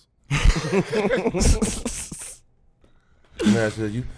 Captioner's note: laughing